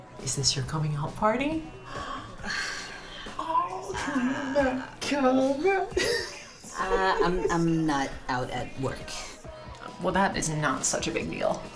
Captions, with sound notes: Is this your coming out party? Oooh, come out, come out (giggle) I - I'm not out at work. Well, that is not such a big deal.